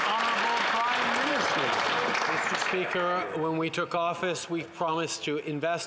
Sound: some Applause

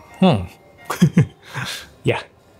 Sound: chuckles

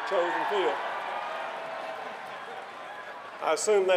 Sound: cheering

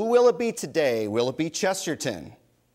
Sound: none

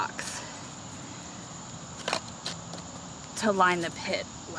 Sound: clanging sound of rocks continue

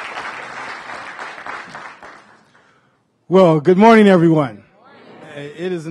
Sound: applause

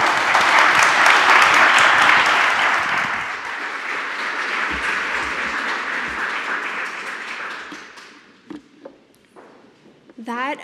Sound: applause

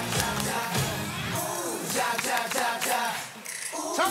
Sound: clap clap clap clap

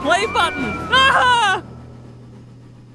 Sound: screams

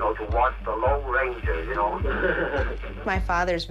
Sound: laughs

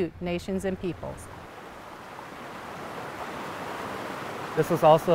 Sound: water rushing

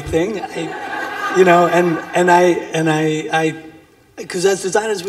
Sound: laughter

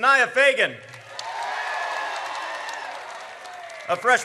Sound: audience cheers

